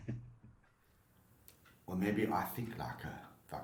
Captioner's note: chuckles